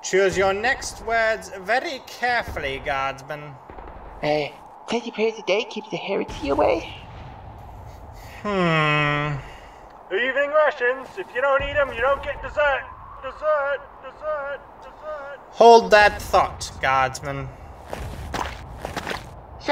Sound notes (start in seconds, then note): 13.2 echoing; 17.8 foreboding footsteps